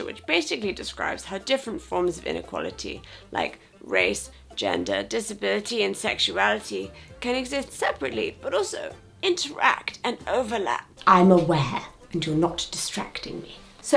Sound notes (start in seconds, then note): none